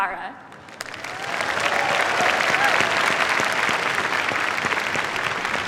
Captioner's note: cheers, applause